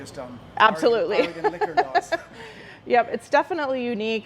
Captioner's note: both laughing